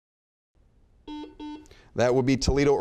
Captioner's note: buzzer beeping